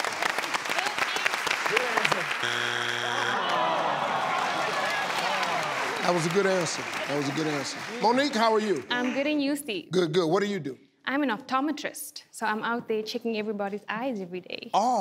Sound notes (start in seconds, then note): 0.1 audience applauds; 2.3 machine buzzes